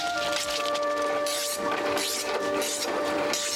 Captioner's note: blade scraping